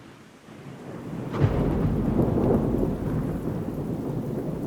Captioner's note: thunder rumbling